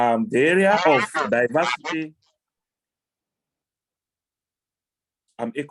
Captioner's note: audio feedback noise